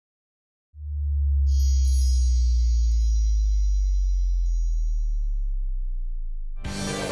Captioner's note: chimes